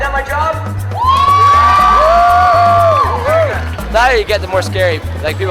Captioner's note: audience cheering and applauding